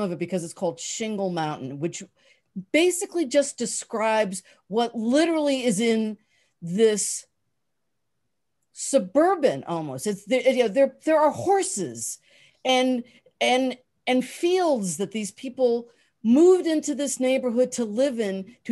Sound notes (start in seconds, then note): none